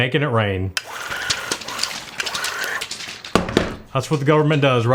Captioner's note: motor whirs